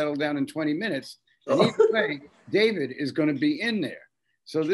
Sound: Bob laughing

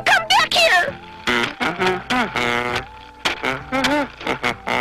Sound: Tubby hums to himself

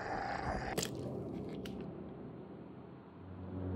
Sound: squelching

